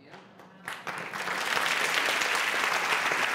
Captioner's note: applause